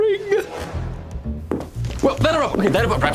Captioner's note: footsteps